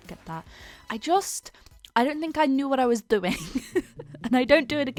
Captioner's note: laughs